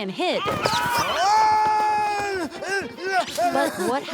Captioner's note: shouting